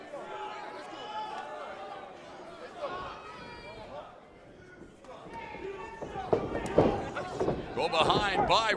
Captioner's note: crowd chatter